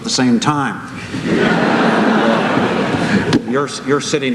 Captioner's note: laughter